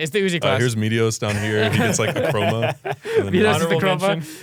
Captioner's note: laughs